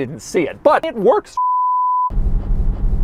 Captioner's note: bars and tone